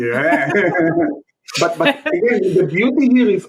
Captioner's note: chuckling